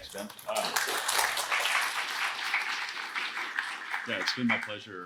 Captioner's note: applause